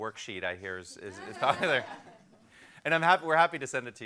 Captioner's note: and crowd laughs